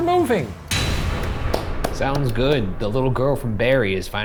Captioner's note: dramatic clang